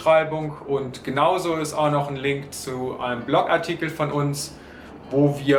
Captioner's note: in German